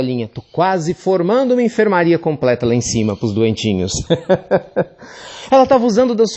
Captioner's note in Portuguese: Risos